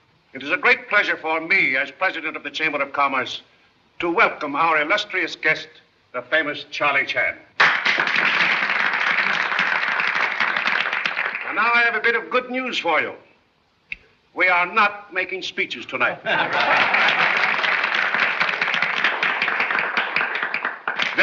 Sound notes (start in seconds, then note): 7.5 applause; 16.2 laughter and applause